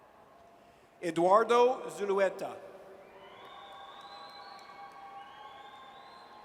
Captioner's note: audience cheers